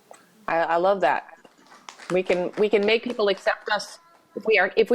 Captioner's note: light applause